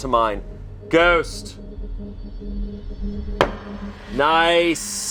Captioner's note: knocks once